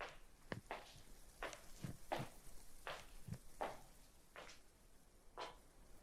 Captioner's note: footsteps